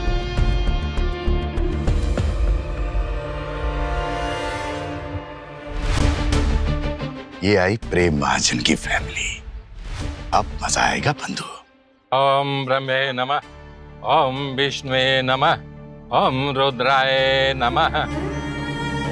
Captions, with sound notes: Here comes the family of Prem Mahajan. Now there will be fun. [chant] [chant] [chant]